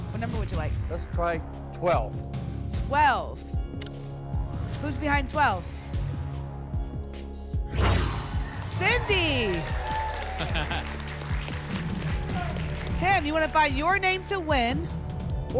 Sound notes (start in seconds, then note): 7.7 whoosh; 10.2 laughs; 11.4 applause and cheering